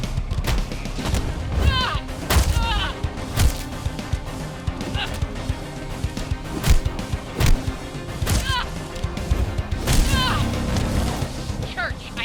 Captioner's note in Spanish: impactos